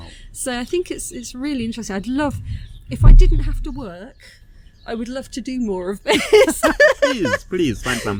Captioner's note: laughing